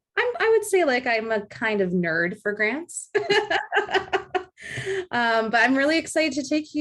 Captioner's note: laughs